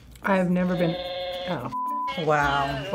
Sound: Furbacca hums theme

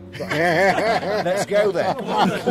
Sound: everyone laughs

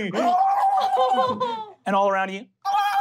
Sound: ululating; shrill ululating

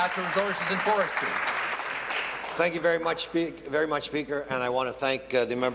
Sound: applause

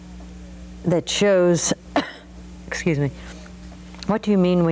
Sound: coughs

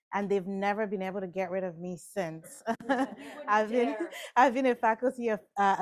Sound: laughs

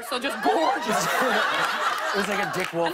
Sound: laughter and applause

